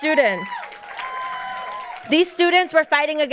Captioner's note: audience cheering and applauding